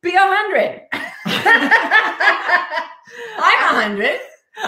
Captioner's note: all laughing